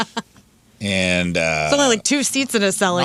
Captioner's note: laughing